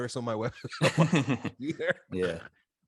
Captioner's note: both laughs